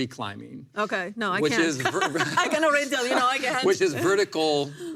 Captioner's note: laughs